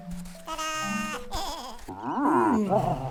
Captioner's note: laughs